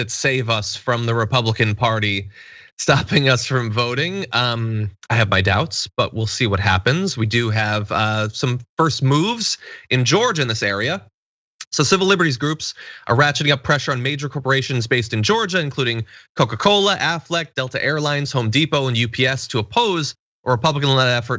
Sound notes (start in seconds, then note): 2.9 laugh